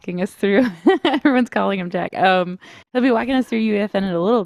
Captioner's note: laughs